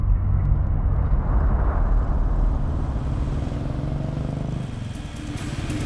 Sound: car Sound

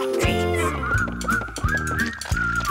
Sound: whistling

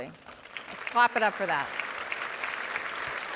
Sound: audience applauding

